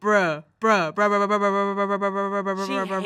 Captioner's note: stuttering